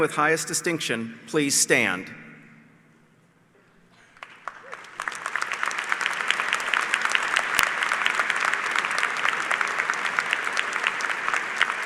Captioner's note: applause